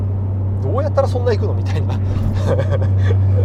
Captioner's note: laughs